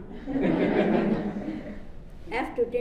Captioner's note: audience laughs